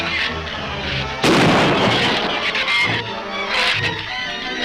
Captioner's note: shrews chatter; gun fires; shrews chatter